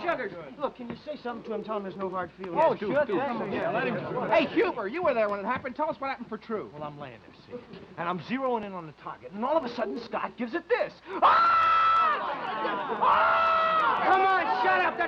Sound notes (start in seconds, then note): 11.2 screaming